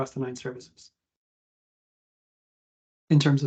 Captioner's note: no audio